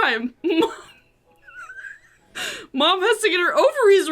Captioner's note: laughs